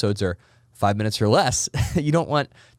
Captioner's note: laughs